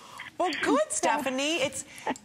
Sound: laughter

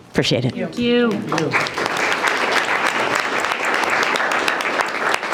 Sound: group applauding

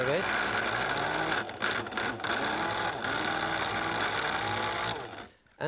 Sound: food processor grinding

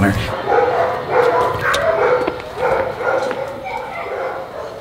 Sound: dogs barking

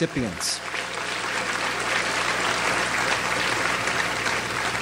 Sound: audience applauds

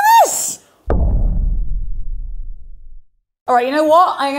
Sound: booming

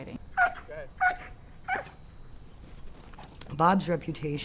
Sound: dog barking

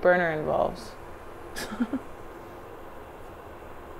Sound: scoffs

